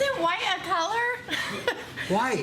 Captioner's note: laughs